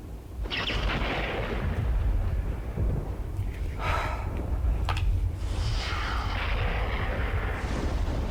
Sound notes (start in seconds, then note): 4.7 Madame exhales